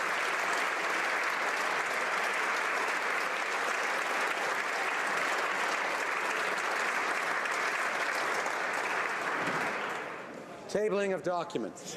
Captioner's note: applause